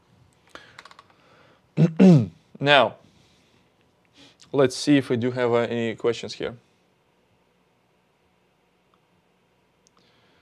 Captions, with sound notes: (clears throat) Now, let's see if we do have any questions here.